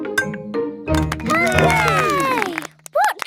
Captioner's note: all cheer